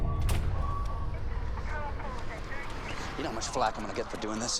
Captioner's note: police radio chattering